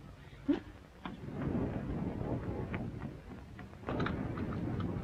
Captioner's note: thunder rumbling